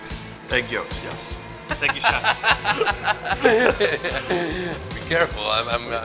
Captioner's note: laughter